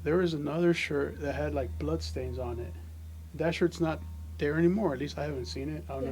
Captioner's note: none